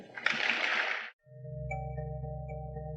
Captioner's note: audience applauding; ambient music